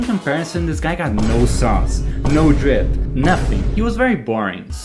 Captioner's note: boom